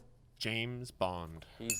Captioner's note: ding